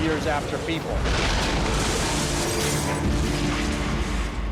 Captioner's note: explosion